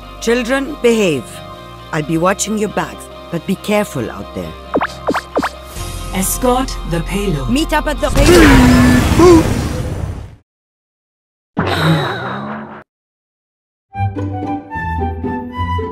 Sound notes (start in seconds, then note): 11.6 sigh